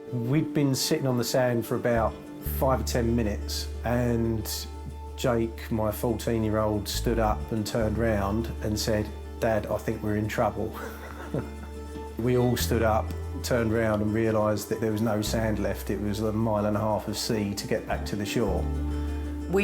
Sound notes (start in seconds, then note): 10.6 chuckles